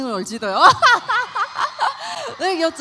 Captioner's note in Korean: 환호